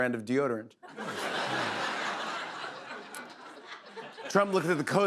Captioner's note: laughter